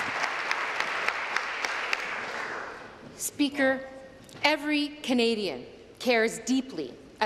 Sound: applause

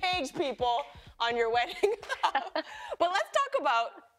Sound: chuckles

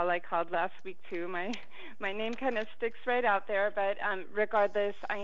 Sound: chuckles

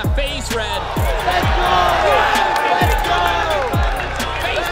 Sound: group cheering

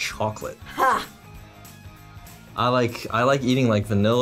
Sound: laughs

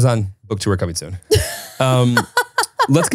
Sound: laughs

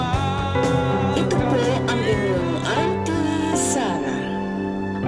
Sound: radio Voice-over

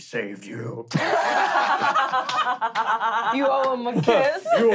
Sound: laughing

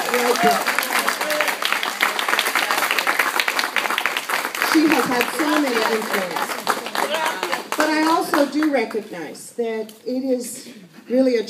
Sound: applause

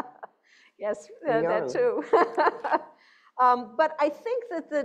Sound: laughing; laughs

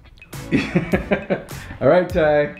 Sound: laughs

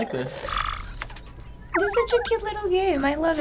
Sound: robot beeping

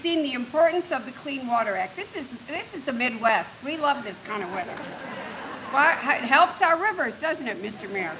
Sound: rain

